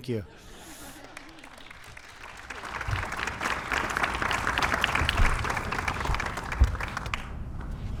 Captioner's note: laughter and Applause